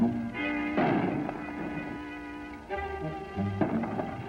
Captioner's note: gunshots